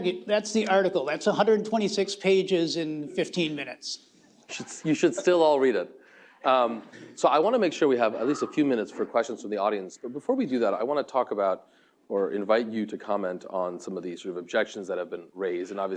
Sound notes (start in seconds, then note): 4.6 laughter